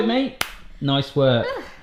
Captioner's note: hands slapping together